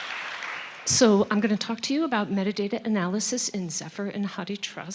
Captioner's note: applause